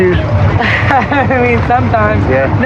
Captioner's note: lauaughs